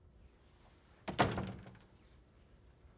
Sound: door closes

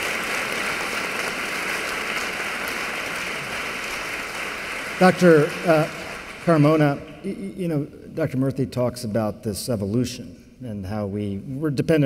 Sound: applause

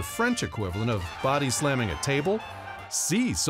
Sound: crowd cheering

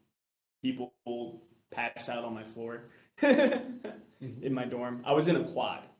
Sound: chuckles

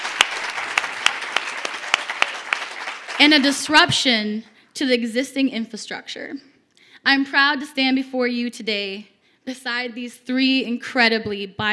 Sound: cheers and applause

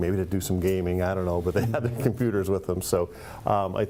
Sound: laughing

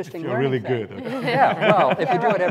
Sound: laughing

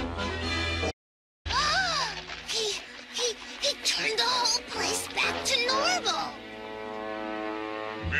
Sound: gasps

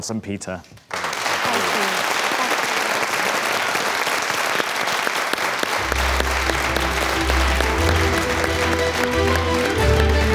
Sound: clapping

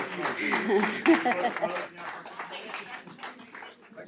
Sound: applause

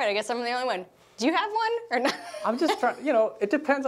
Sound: laughs

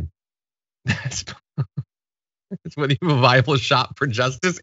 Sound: laugh

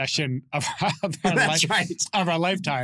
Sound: laughs

